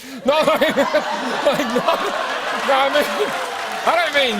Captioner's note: laughter